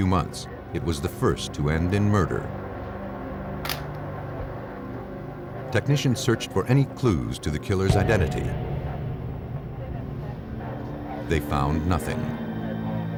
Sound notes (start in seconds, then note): 3.6 camera shutter clicking; 12.9 police radio chatter